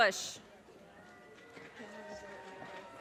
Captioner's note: audience cheers and applause